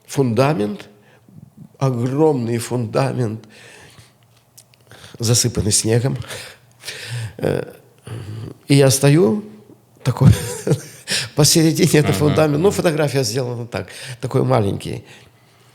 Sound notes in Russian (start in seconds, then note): 10.2 смех